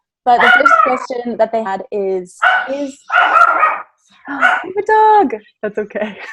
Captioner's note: dog barking